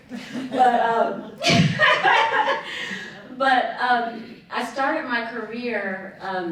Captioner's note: laughing